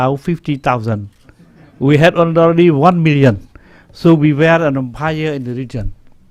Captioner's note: chuckling